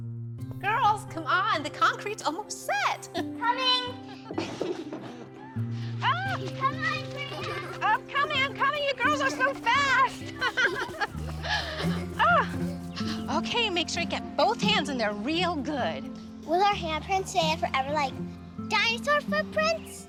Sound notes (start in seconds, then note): 10.2 laughs